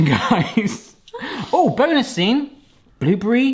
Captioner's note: both laughing